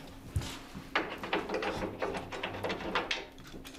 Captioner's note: metal sounds